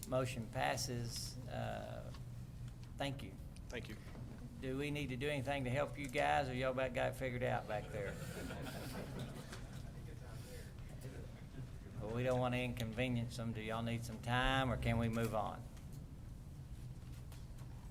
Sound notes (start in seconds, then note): 7.8 laughter